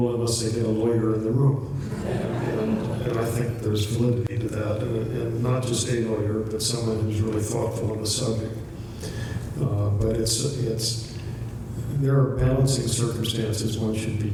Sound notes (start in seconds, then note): 1.8 laughter